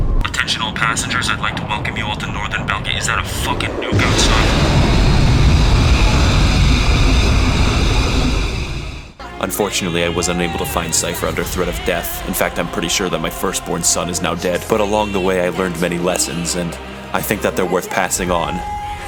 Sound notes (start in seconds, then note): 4.4 explosion